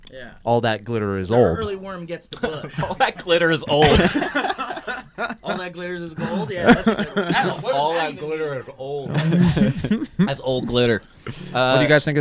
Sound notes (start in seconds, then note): 3.6 laughing